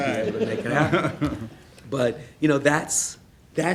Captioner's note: laughing